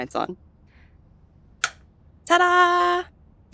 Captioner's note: switch click